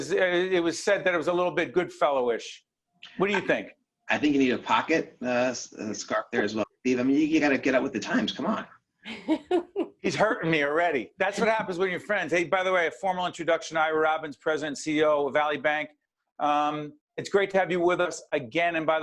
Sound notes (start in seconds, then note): 9.0 laughing